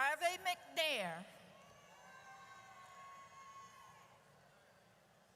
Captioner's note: audience cheers